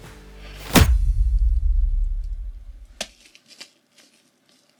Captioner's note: popping sound effect